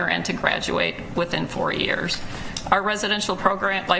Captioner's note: none